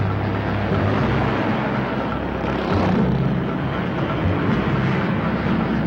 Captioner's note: truck engine whirring; car whizzing; suspenseful music